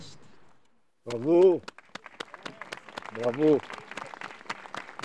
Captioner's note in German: klatschen